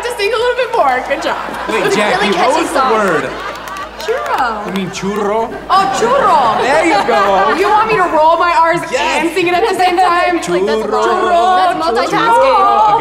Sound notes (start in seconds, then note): 6.2 audience laughs